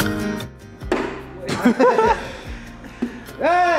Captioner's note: laughs